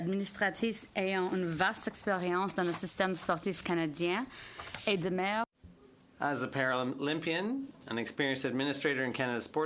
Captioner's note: speaking in French